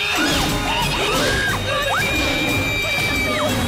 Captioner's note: candace screaming; gasping; screaming continues